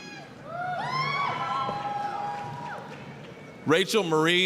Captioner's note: applause, cheering